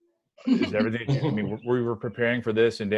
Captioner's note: panelists laugh